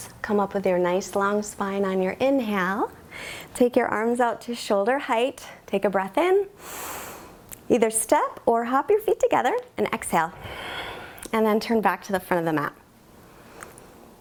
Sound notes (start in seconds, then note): 6.6 inhales; 10.4 exhales